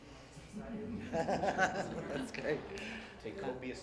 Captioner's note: laughter